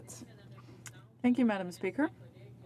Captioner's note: speaking French